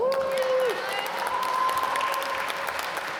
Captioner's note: applause